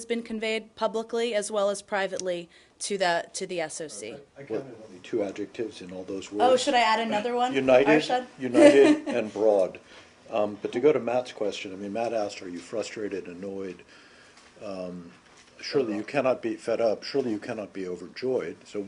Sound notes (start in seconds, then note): 8.5 laughter